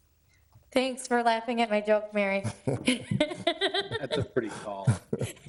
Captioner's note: laughs